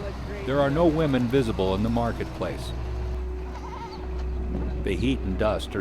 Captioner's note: voiceover